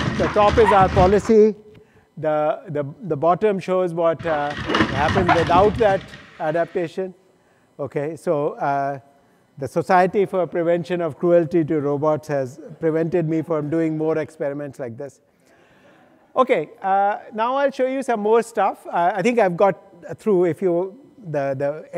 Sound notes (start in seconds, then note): 6.9 feet clatter